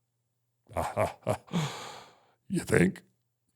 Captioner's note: Undertaker imitates Vince's laugh